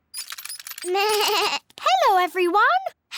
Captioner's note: bleats